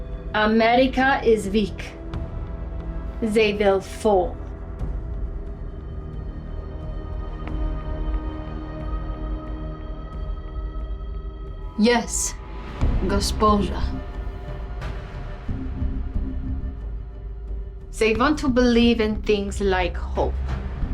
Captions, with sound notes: America is weak. They will fall. (slow music continues) - Yes. (speaking in foreign language) (slow music continues) - They want to believe in things like hope.